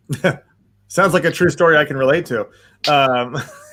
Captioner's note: laughs